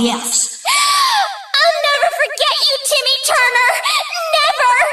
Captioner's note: gasps